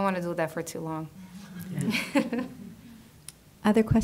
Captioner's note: soft laughter